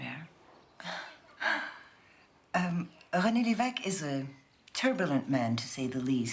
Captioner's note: chuckles